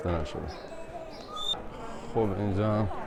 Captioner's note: whistle noise